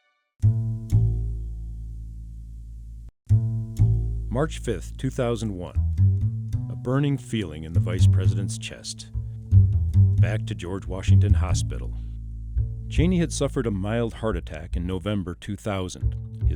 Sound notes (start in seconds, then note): 0.2 mellow guitar music; 4.3 voiceover